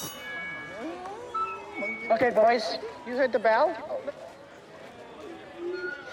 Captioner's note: school bell rings, students chatter; feedback squeals